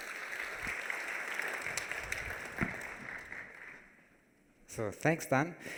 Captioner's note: applause